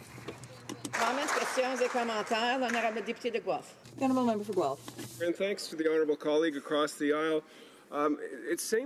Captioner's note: applause